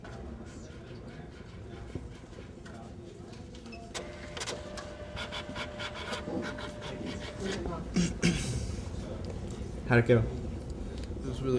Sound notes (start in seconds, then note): 3.9 machine noises